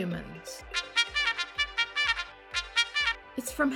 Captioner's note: message alerts